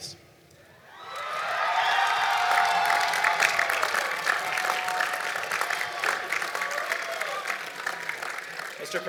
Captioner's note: applause and Cheering